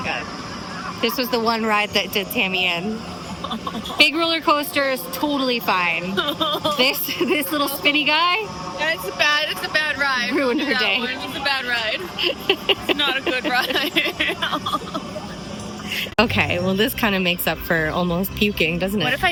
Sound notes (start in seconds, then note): 0.3 hoots; 2.9 sobs; 3.9 hoots; 10.2 hoots; 12.8 hoots laughs; 16.2 sobs; 16.3 hoots